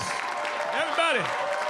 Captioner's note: audience cheering